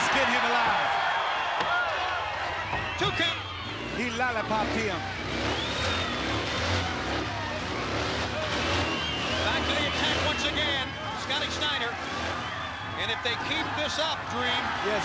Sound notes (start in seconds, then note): 5.9 engine revving